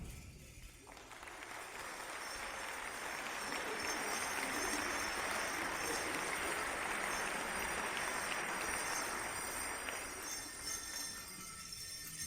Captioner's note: applause